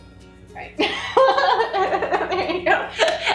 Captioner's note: laughing